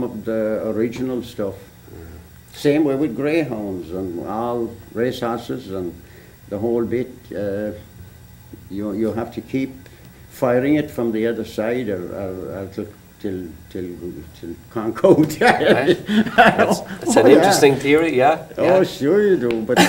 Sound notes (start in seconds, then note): 13.5 laughter